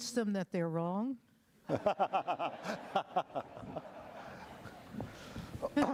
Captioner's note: laughter